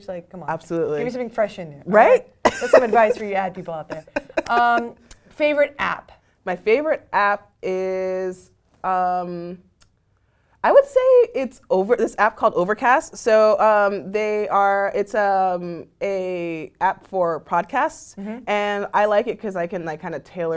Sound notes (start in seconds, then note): 2.4 laugh